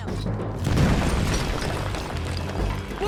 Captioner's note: A nearby explosion is heard